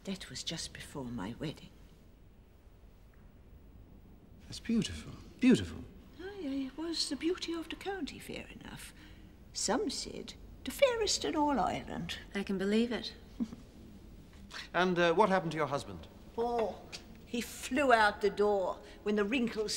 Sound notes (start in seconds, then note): 13.4 giggling